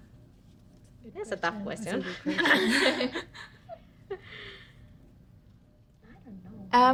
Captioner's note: women mutter and laugh